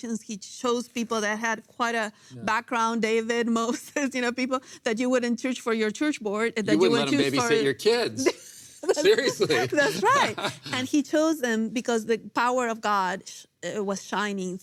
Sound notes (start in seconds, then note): 8.8 laughs